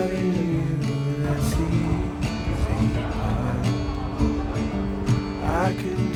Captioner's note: laughing